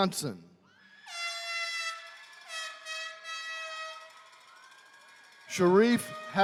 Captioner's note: attendees cheering; horn blaring